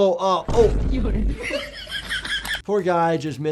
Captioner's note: canned laughter